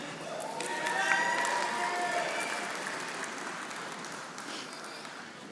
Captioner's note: audience applauding